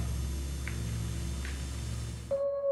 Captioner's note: footsteps tapping; suspenseful synth music